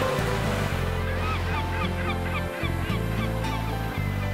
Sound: gulls cawing

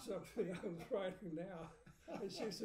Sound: laughing

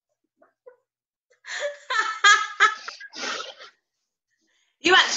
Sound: laughter

